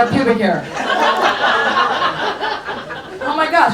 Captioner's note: audience laughs